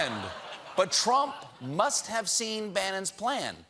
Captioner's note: laughter